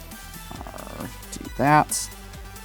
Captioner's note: grumbles